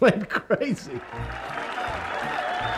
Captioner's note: cheering